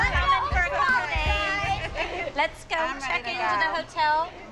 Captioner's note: all clamoring